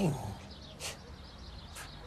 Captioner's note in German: Seufzen